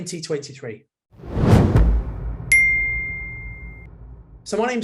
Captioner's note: logo swooshing